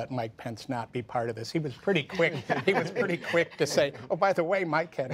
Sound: laughter

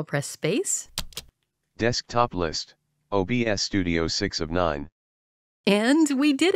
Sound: voiceover

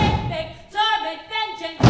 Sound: characters stomping

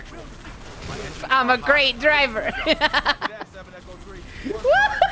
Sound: laughing

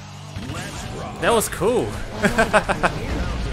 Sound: laughs

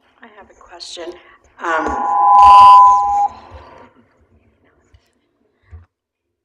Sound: mic feedback

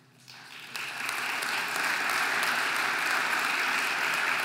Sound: audience applauding

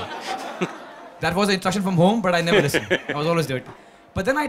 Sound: Sadhguru laughs

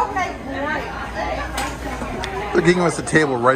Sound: patrons chattering

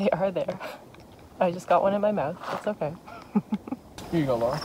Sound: laughs

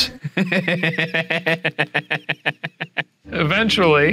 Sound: laughing

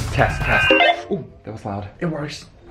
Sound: static feedback; beep

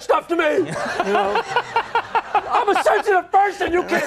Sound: laughing

